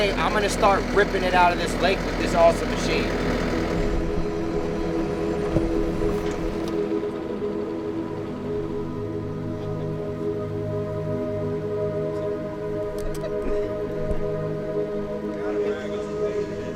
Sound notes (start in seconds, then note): 3.9 engine revving; 5.8 suspenseful music